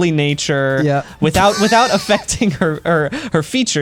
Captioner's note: pat; laughs